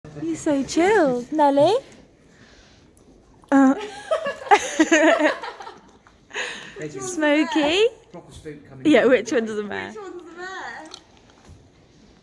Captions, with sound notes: You're so chilled... Nelly? Oh.. *laughter* Smokey? Yeah, which one's the mare?